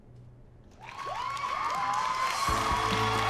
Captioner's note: audience cheering